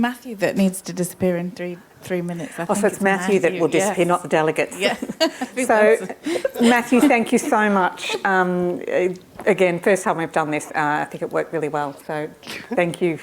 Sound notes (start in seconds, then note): 4.7 laughs